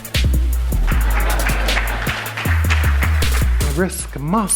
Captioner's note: audience applauds and laughs